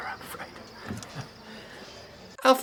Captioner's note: crickets